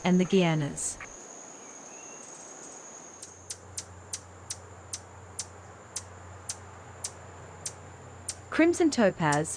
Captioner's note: birds chirping